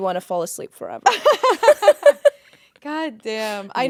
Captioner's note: both laughing